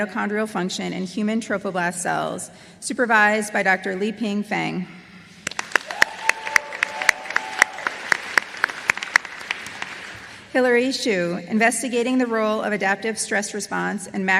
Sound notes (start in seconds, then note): 5.4 applause